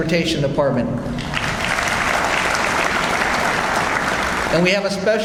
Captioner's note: audience applauds